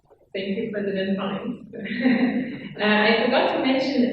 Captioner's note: laughs